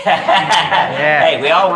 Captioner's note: laughing